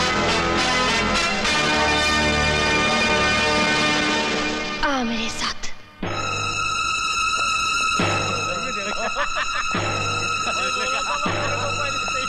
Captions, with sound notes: Come with me. (Laughs)